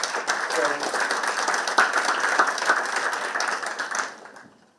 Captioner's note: participants clapping